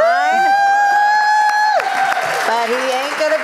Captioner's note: cheers